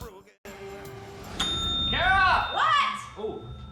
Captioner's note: dings